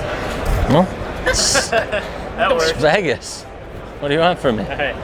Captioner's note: laughing